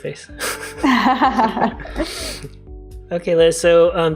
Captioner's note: laugh